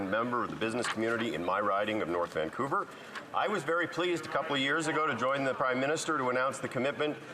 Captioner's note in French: voix de l'interprète